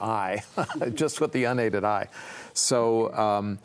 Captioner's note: chuckles